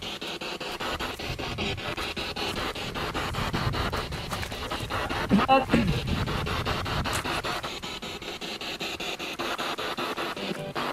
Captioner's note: radio noise from the spirit box